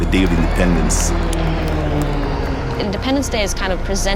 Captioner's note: planes buzzing